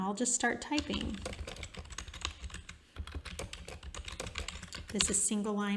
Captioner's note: keyboard clacking